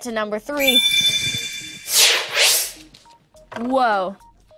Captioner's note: sword slashing